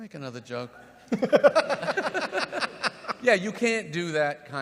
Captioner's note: laughs